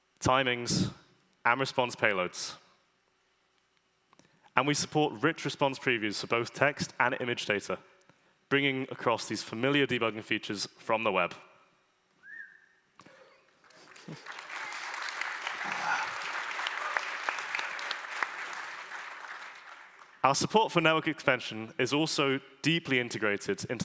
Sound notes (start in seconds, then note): 11.5 applause